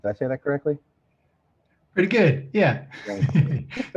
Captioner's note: chuckles